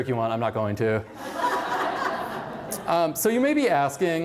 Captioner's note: laughter